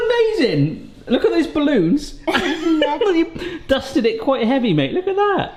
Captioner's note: chuckles